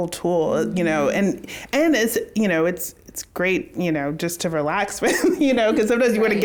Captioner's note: laughs